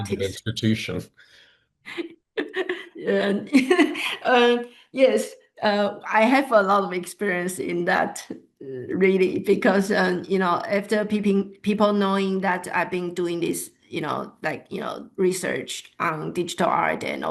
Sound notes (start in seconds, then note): 2.4 laughs